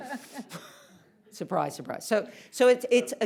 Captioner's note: laughs